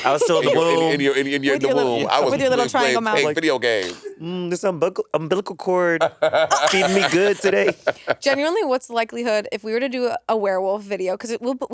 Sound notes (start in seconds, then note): 0.0 laughing; 6.0 laughing